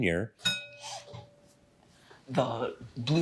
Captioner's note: bell dings